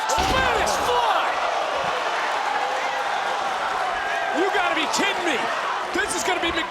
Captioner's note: applause